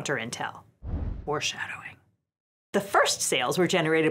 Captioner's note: air whooshes